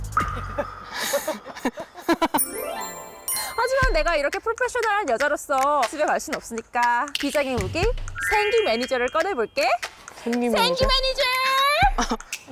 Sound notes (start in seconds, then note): 2.4 soothing sound effect